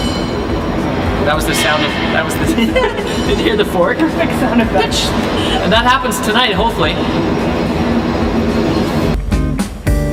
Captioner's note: laughs